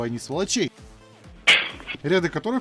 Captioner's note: bonk